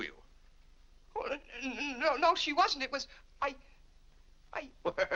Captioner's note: stammering; laughs